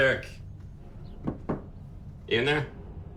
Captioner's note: knocking